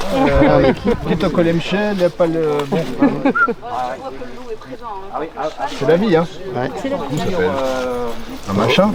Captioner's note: speaks in patois